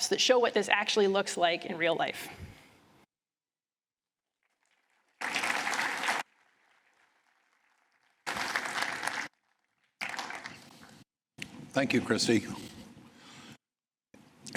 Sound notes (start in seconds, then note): 5.1 applause